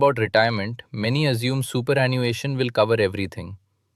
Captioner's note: thoughtful